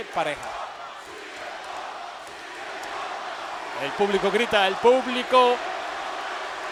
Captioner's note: applause